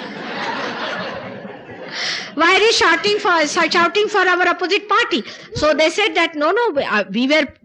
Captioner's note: laughter, She laughs